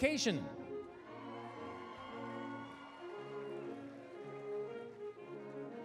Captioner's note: applause, cheering; orchestral music